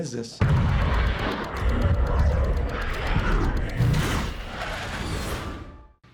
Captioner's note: fighter jet engine noise